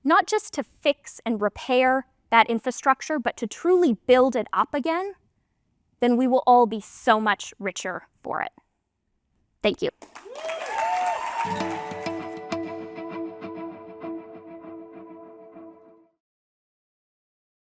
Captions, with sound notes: just to fix and repair that infrastructure, but to truly build it up again, then we will all be so much richer for it. Thank you. (audience cheering and music)